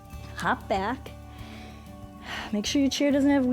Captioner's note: inhales and exhales